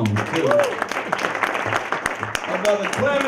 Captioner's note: audience applause